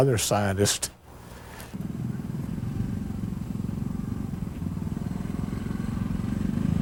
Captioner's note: four-wheeler engine buzzing